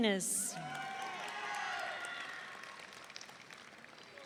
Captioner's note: audience cheering